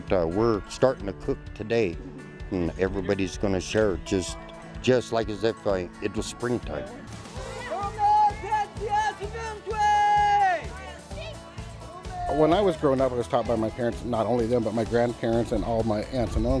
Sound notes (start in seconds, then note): 8.7 shouting in native language